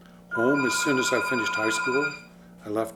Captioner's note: telephone ringing